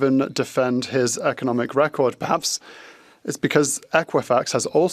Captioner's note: speaking French